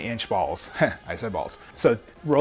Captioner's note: laughs